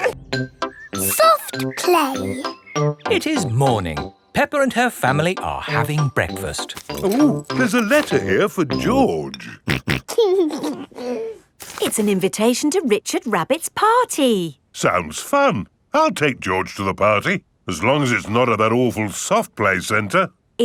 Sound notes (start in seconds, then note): 9.4 snorting and giggling